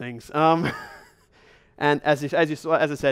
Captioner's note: chuckles